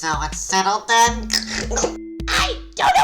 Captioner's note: gross hacking